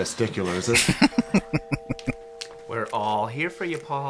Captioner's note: chuckling